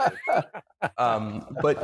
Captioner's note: laughs